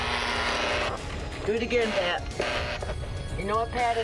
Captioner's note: buzzzzzer; buzz